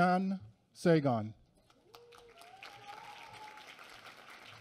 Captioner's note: applause